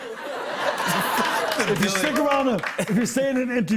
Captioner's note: light laughter